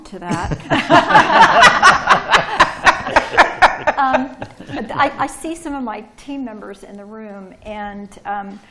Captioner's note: laughter